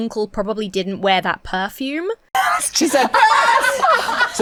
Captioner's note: guests laugh